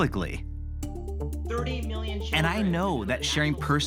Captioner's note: on phone